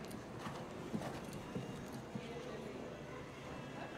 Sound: horse galloping

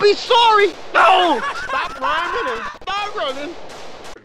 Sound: laughing

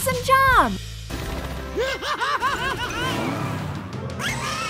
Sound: laughing

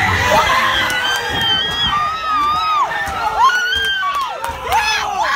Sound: cheers

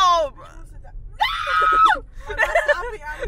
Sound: yells

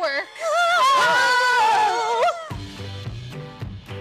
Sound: collective shudder; whimsical music

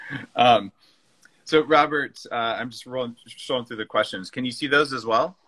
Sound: laughing

